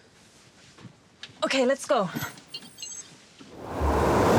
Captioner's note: electronic pulse